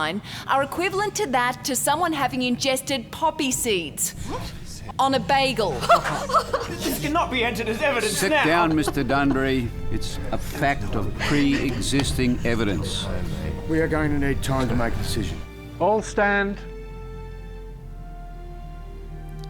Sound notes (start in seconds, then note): 5.7 laughter